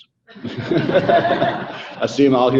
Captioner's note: audience laughing